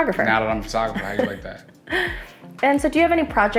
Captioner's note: laughs